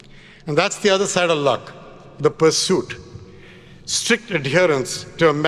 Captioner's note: none